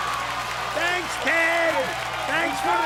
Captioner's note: cheers and applause